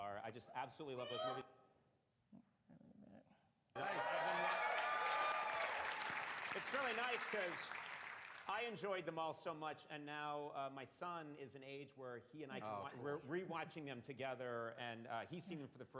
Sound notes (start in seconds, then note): 3.7 applause